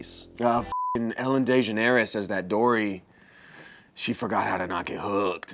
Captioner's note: beep